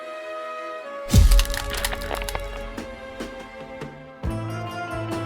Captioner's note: neck snapping; foot thudding